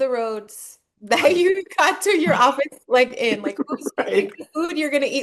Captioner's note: laughing